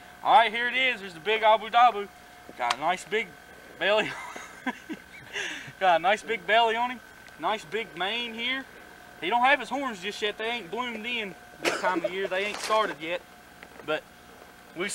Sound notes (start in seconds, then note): 4.0 laughter; 11.6 laughter